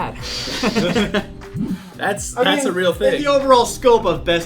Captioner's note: laughs